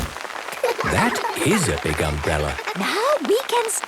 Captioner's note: laughter